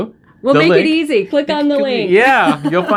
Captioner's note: laughing